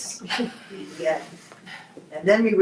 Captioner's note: group laughs